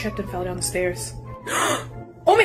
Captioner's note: gasp of terror